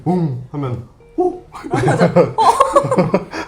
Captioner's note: startled